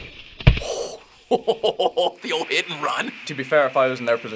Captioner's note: chuckling